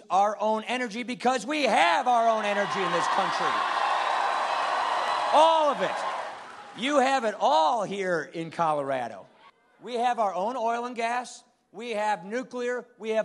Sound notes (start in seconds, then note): 2.3 cheering and applause